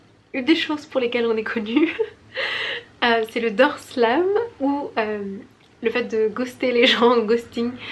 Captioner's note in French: rires